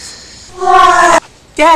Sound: echo-y

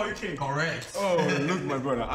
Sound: laughing

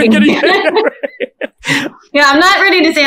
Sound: everyone laughs

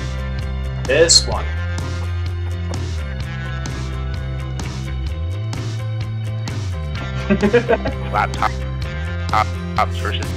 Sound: giggling

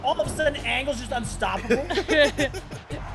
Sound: laugh

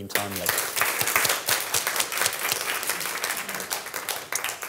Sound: applause

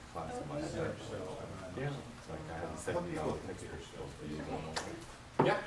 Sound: voices continue to murmur

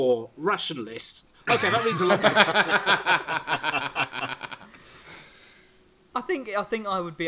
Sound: laughing

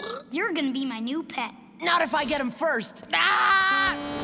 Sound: screaming

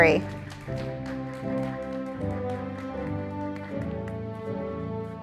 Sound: audience applauding

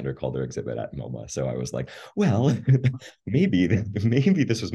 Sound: laughing

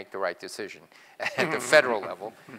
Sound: laugh

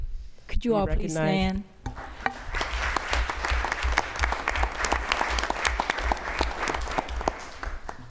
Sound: applause

